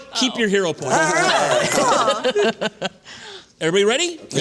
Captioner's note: laughter